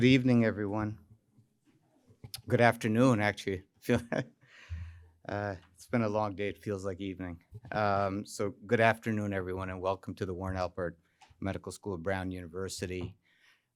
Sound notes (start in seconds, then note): 3.8 laughs